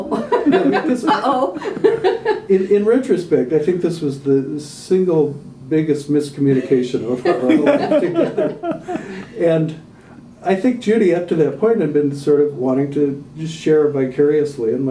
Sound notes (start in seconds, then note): 0.0 laughter; 7.2 mingled laughter